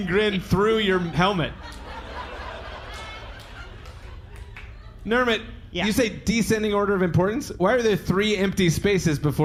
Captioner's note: audience laughs